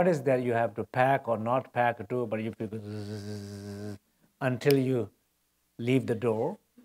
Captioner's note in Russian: бззз